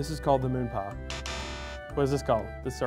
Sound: buzzer

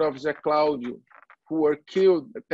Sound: foreign language

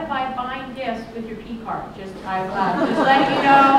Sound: laughter

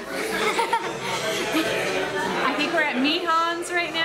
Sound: giggling

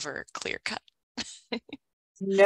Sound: chuckles

